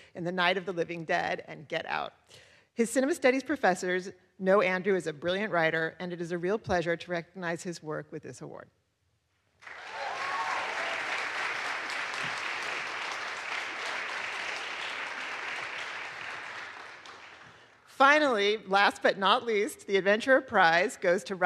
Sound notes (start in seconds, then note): 9.6 audience applauds